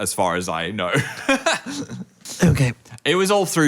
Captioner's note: chuckles